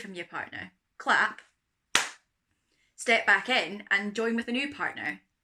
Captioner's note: clap